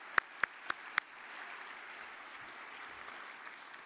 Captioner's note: applause